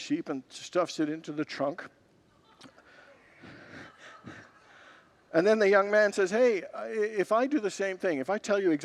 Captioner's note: congregants laugh